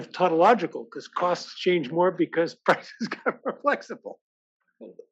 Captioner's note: laugh